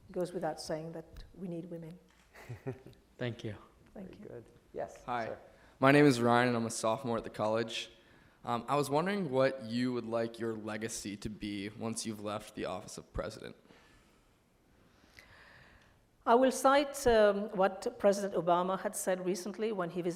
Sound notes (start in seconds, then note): 2.4 laughs